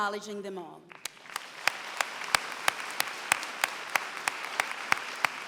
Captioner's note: applause